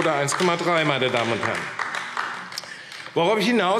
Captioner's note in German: Beifall AfD